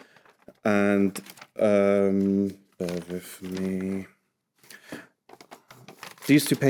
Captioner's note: papers shuffling